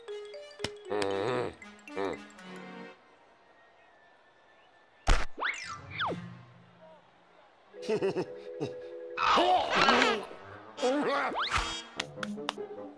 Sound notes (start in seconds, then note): 1.0 grumbles; 7.8 sheepish laugh; 9.2 growls; 10.8 whimpering